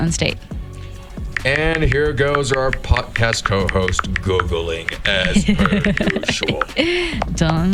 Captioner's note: giggles